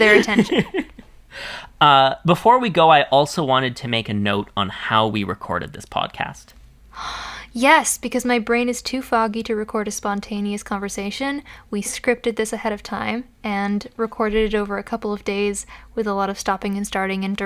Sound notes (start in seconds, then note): 0.0 laughs